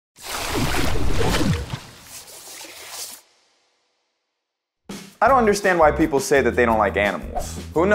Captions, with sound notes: (water splashing) (pencil scribbling) - I don't understand why people say that they don't like animals.